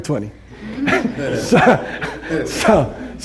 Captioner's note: laughter